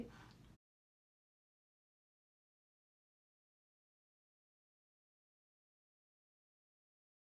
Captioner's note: silence